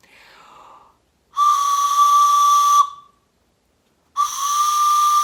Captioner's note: whistle blowing